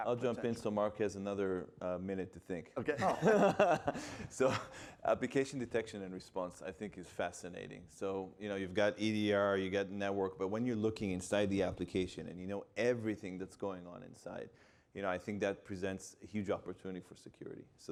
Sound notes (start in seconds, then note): 2.9 panelists laughing